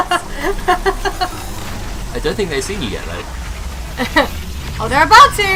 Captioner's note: laughing